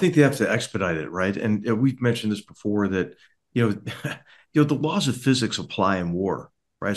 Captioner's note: laugh